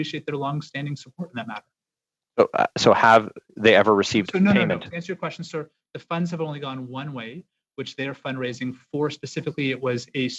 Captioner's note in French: voix de l'interprète